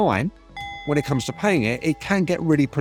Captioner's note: clock dinging